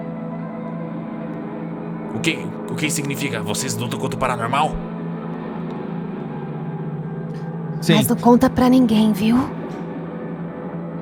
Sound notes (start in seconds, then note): 8.0 whispering